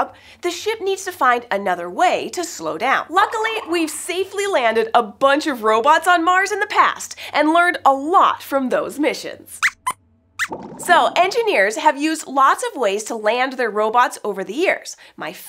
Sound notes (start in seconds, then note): 9.6 squeaks squeaks